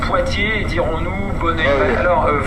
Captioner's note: radio noise